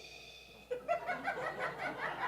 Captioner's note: exhales; audience laughing